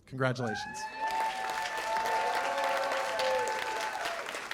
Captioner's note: cheers and applause